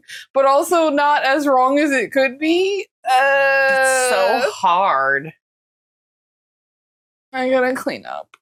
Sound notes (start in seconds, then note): 3.1 whinging